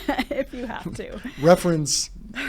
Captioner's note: laughing